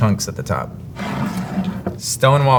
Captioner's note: jar sliding